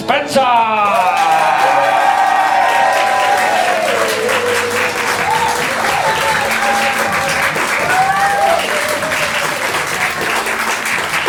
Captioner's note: audience cheers/claps